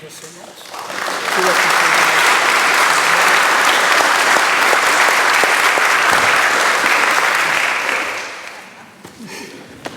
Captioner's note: applause